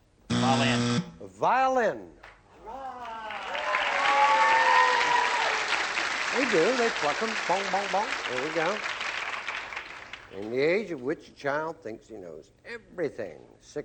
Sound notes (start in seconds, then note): 2.8 cheering